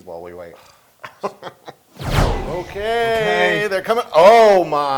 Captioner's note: laugh